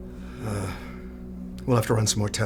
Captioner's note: Kenneth sighs